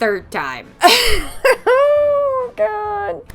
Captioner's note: laughs